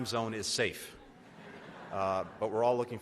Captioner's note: laughter